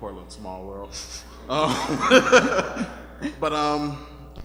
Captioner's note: laughing